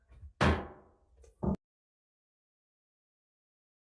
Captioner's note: gavel banging